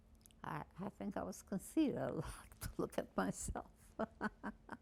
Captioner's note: laughing